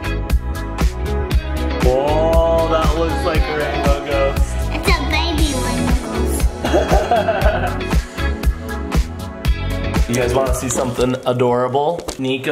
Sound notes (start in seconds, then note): 6.6 laughs